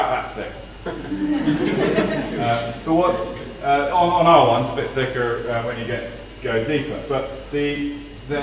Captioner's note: laugh